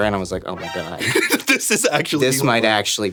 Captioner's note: laughing